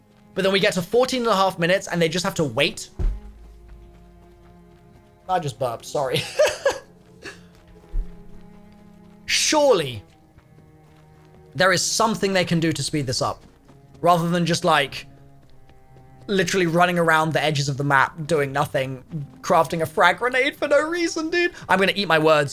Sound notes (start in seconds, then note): 6.1 laughs